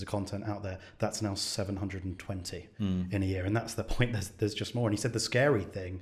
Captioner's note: chuckles